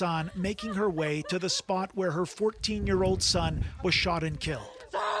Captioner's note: sobbing